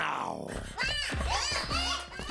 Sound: shouting

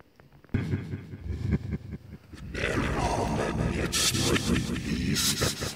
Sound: distorted voice in foreign language

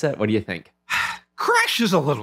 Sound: sigh

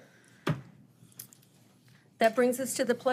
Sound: gavel thudding

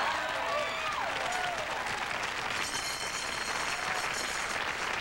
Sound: applause

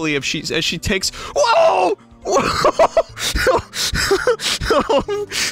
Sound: stammers; breaks into crying laughter

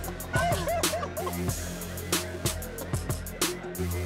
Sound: laughs

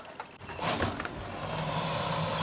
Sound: hiss!

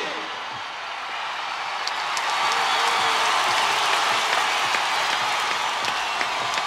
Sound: crowd cheering; crowd applauding

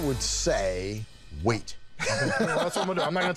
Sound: Danny laughs

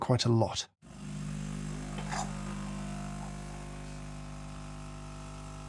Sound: coffee machine whirring

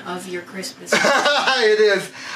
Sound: laughs

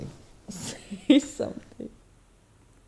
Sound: laughing

